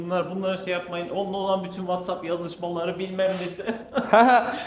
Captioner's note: laughs